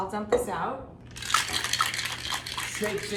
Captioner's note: ice shaking